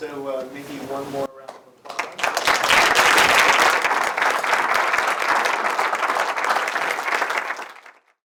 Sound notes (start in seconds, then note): 1.8 audience applauding